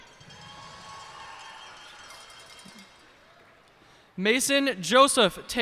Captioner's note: cheers and applause